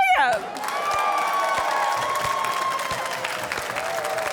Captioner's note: cheering, applause